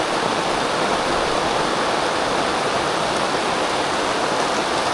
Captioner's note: rain